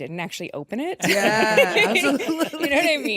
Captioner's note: everyone laughs